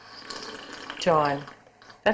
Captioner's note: slurping